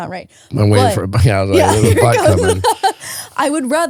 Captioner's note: laughing